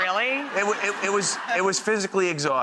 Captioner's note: crowd laughs